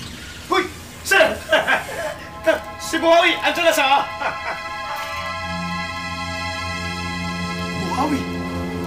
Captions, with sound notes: Hey, sir! It's Buhawi. He’s here. [laughs] Buhawi!